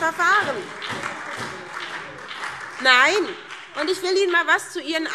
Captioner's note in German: Beifall SPD und Freie Demokraten